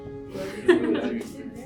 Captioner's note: laughs